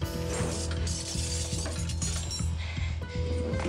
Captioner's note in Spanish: ruido de cubiertos